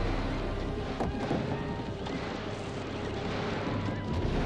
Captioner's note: torch clatters